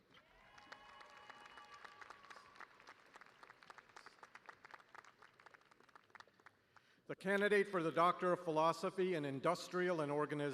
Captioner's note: cheers and applause